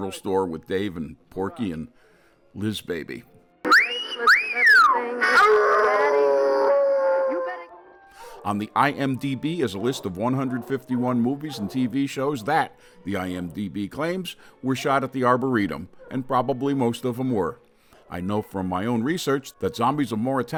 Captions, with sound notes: with Dave and Porky and Liz Baby. (speaker whistles) (dog howls) On the IMDB as a list of 151 movies and TV shows, that, the IMDB claims, were shot at the arboretum, and probably most of 'em were. I know from my own research that "Zombies of Mora Tau"